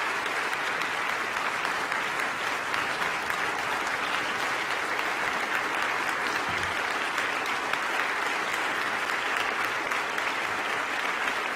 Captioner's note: applause